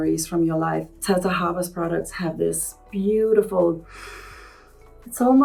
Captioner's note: sniffs